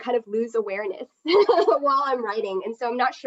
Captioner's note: chuckles